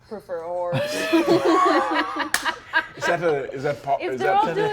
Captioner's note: all laughing